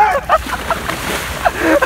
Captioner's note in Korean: 풍덩